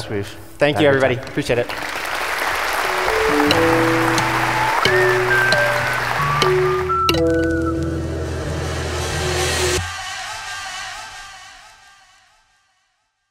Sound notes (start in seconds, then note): 1.2 audience applauding; 2.8 upbeat music